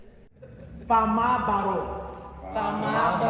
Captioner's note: speaking Manding